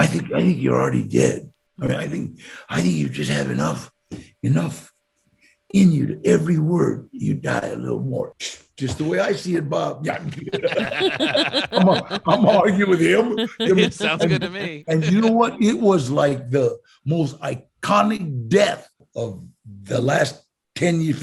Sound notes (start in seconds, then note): 10.0 hosts laughing; 10.4 laughs